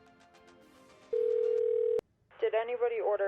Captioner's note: telephone dialing